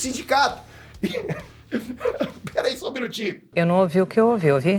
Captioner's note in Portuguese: morrendo de rir